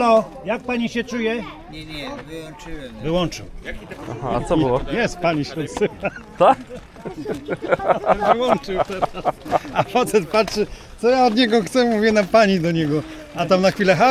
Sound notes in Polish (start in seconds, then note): 5.5 śmiech